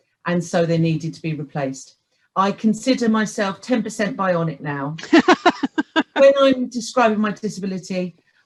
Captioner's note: laughs